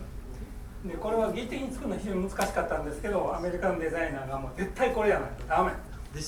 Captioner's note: speaking in foreign language